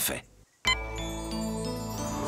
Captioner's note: beep!